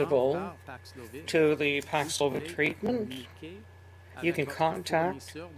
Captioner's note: speaking French